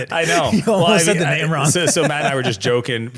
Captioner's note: laughing